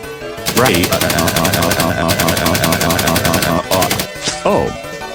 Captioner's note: gun Shooting